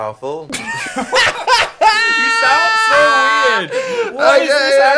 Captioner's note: laughs